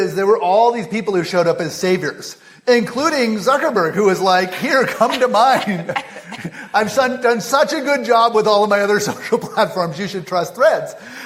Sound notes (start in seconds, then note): 4.9 laughter